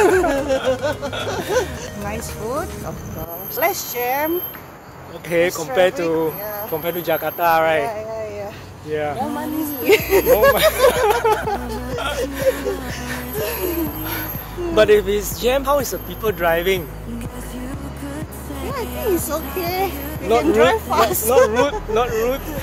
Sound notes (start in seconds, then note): 3.9 traffic; 9.8 laughter